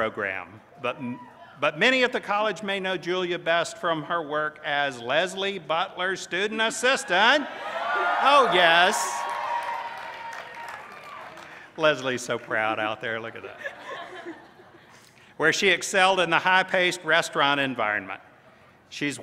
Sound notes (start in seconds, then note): 10.2 cheers